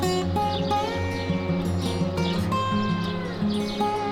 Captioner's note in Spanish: agua borboteando y pajaros